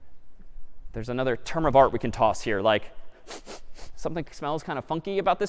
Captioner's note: sniffs